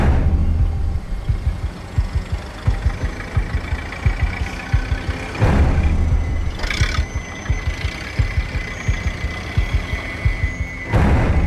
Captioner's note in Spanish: Ruido del vehículo